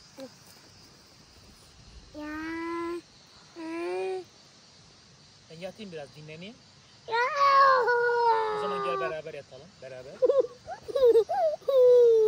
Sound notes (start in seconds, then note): 7.1 shouts